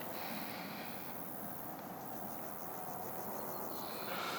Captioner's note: breathing Nadine - traffic</b> <b>noises in background